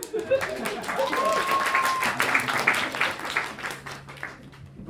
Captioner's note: applause and cheering